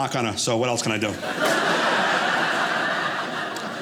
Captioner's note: audience laughing